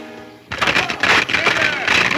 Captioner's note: wood cracking